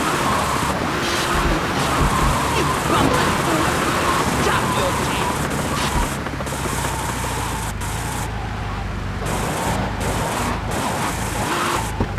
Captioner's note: gun firing